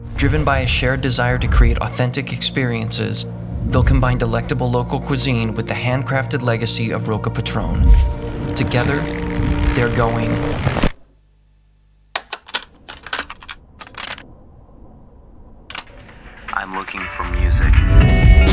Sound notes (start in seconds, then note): 12.1 cassette clattering